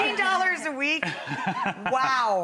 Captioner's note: Ryan laughins